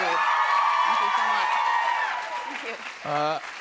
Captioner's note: cheers and applause